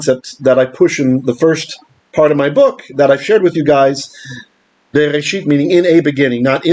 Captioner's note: Hebrew